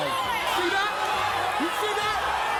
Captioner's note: crowd shouting